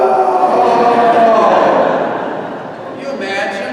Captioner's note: congregation laughing